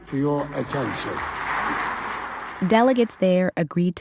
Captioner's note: audience applauding